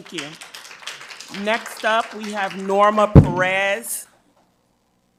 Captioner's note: audience applauds